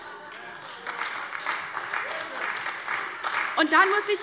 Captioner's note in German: Beifall bei der SPD